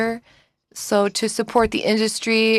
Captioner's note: speaking French